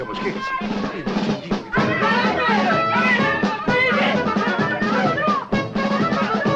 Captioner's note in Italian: grida confuse